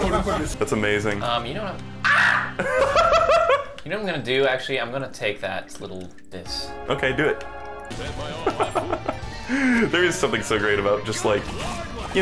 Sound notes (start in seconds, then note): 2.2 laughing; 8.4 laughing